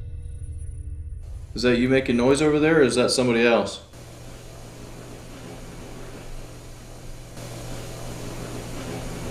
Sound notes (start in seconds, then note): 5.1 static hissing